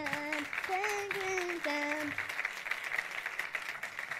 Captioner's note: audience applauds